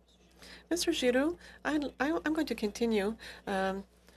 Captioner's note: speaking French